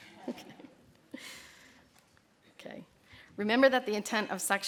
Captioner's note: laughter